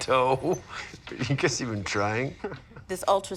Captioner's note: laughing; chuckles